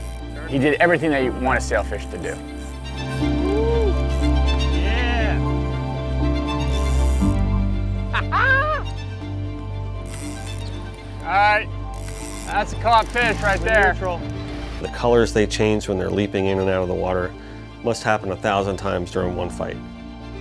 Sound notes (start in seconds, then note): 3.1 tense music; 8.1 laughs